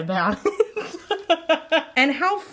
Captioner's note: laughing